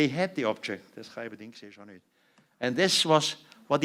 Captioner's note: non-english speech